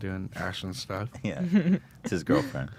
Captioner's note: laughs